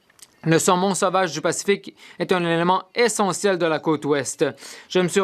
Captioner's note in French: voix de l'interprète